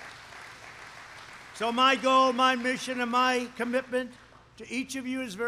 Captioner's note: applause